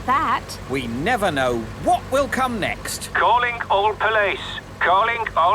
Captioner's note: radio